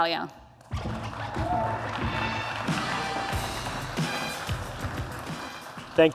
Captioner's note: applause